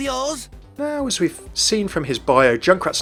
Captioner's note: voiceover